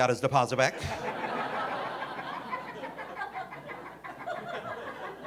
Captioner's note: audience laughing